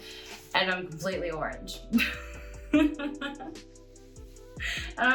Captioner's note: chuckling